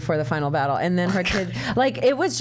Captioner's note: snorts, laughs